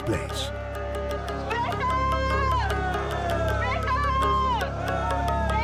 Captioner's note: protestors shouting in Japanese